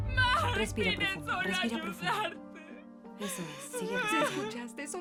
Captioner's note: sobs